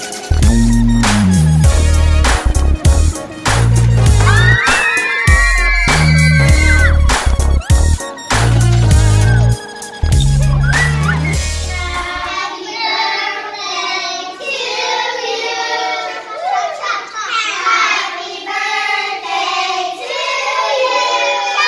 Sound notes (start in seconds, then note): 4.2 happy screams